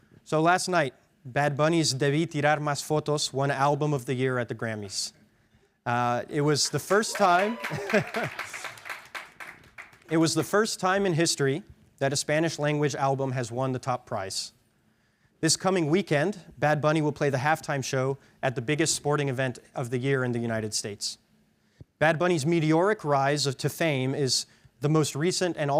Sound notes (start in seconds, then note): 6.3 audience cheering; 7.3 chuckles